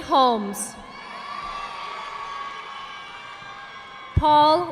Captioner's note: audience applauding